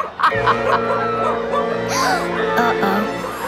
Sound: laughing; gasping

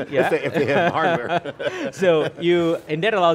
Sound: both laugh

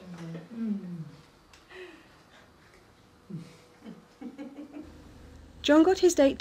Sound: laughs

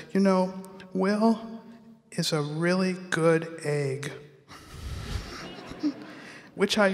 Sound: audience laughs

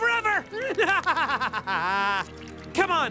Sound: nefarious laughter

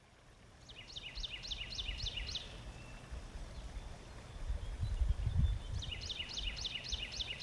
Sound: water flowing; birds singing

